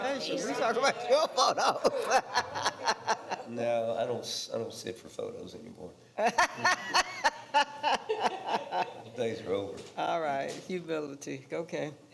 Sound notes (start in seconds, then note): 0.4 laughs; 6.2 and others laughing